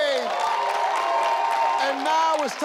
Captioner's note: audience cheering